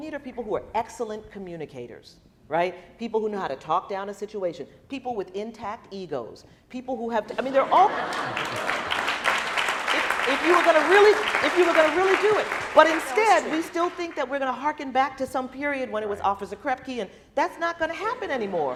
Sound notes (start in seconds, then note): 7.7 applauding